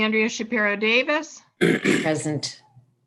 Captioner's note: clears throat